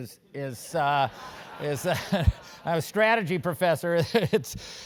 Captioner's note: laugh